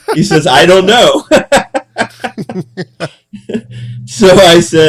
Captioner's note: laughing